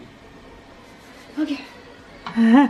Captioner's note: rubbing hands together